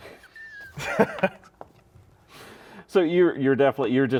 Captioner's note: laugh